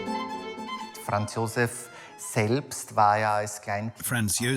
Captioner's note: upbeat classical music; speaks in foreign language